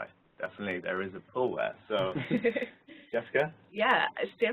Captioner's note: laugh